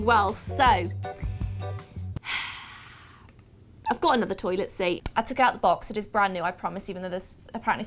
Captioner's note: sighs